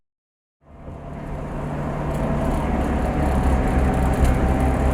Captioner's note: car accelerates